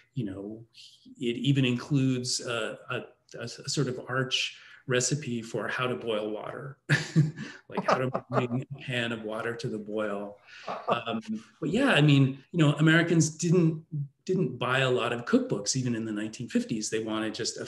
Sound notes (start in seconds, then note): 6.9 laughing; 7.4 laughs